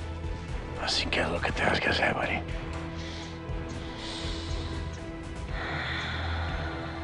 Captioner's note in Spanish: Sighs